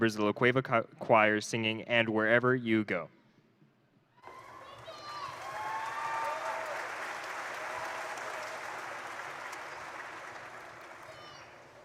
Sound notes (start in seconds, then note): 4.2 crowd cheering; 4.2 crowd applauding